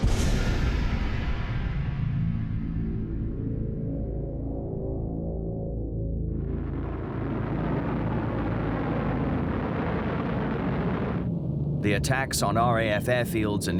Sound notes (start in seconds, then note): 0.0 dramatic music; 6.5 plane engines roaring